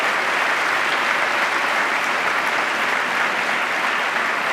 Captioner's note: applause